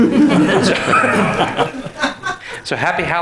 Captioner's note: everyone laughing